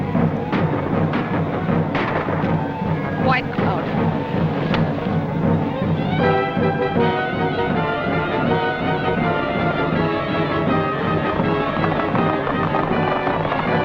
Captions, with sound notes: [GUNFIRE] White Cloud.